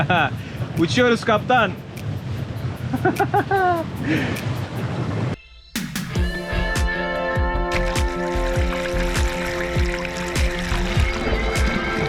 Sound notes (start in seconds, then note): 2.9 laughter